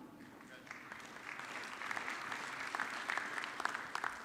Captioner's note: audience clapping